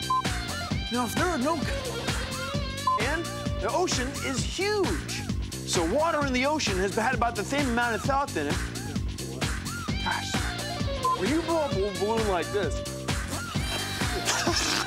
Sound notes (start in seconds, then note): 6.9 lisping; 13.2 laughs